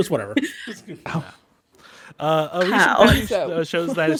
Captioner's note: laughs